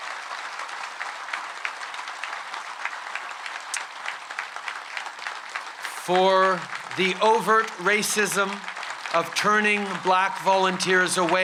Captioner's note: applause